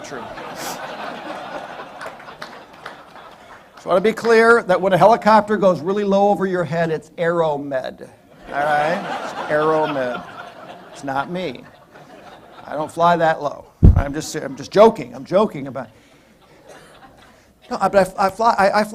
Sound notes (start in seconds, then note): 8.3 laughter